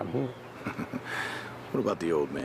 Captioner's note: chuckling